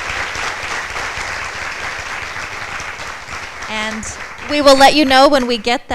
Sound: applause

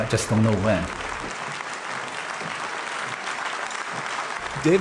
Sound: applause

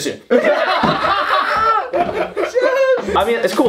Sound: laugh

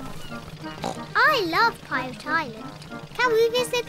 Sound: oinks

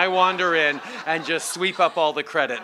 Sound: laughter

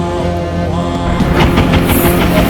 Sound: explosions

